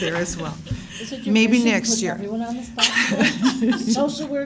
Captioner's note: laughs